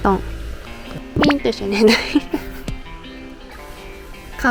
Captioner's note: laughs